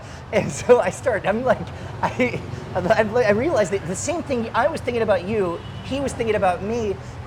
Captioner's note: laughing